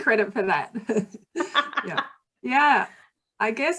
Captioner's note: laughing